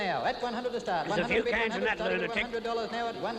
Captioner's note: auctioneer chanting